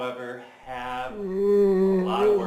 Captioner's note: yawns